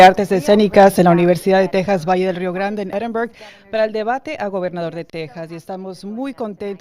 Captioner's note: HABLAN EN INGLéS